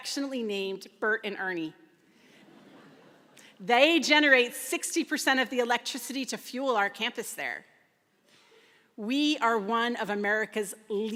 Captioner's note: laughter